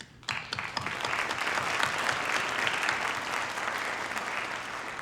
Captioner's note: audience applauding